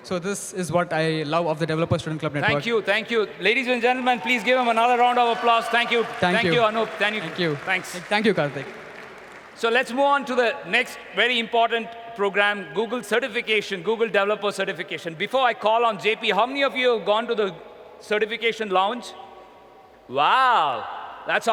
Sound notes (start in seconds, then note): 5.5 applause